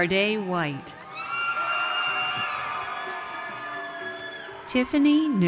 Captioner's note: audience cheers